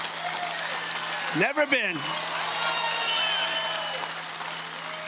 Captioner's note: cheering and Applause